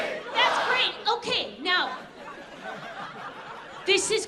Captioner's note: audience laughs